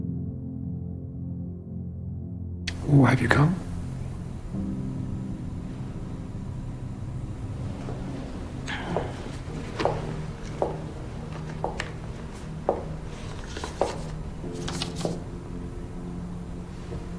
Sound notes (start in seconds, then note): 3.0 voiceover